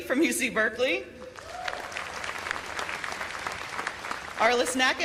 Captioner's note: cheers and applause